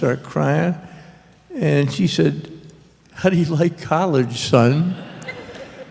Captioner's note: laughter